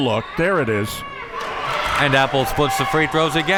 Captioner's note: audience cheering